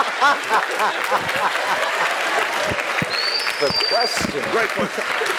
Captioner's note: laugh